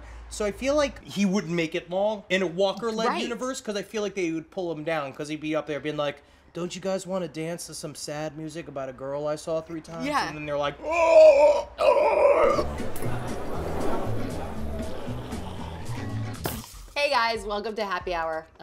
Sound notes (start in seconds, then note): 10.8 monster sounds